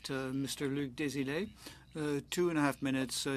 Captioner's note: speaking French